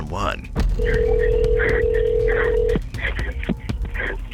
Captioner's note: phone ringing